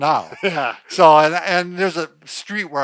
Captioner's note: laughs